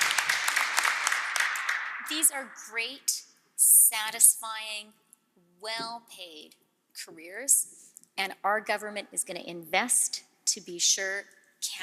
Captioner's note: cheering/Applause